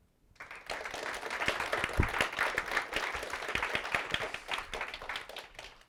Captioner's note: audience applauses